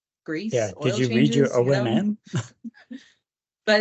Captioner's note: chuckles